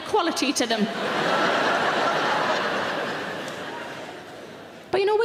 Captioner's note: audience laughing